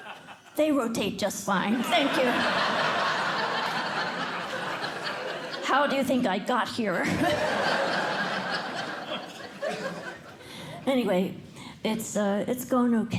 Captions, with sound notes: They rotate just fine. Thank you. [LAUGHTER] How do you think I got here? [LAUGHTER] Anyway, it's going OK.